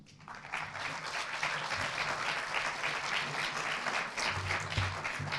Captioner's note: audience applauds